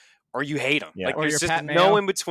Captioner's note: laughs